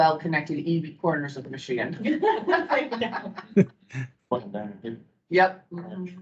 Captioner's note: speakers laughing